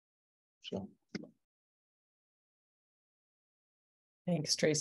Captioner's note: pause